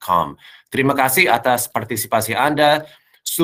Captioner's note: non-english speech